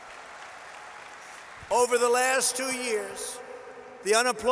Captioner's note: applause